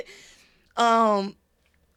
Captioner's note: laughs